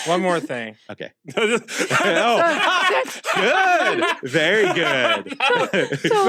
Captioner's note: laugh